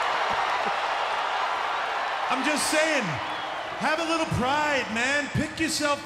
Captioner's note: applause